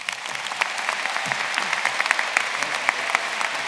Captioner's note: applause